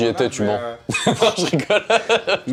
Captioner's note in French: Rires